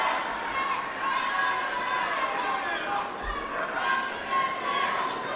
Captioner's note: protesters chanting